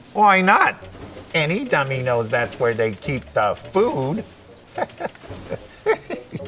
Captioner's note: chuckles